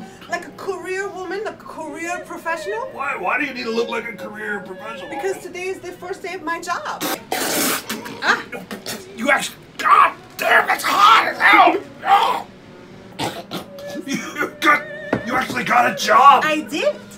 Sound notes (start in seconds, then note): 7.0 spit take